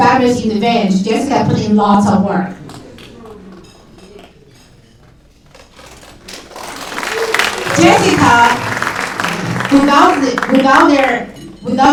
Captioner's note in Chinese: 掌声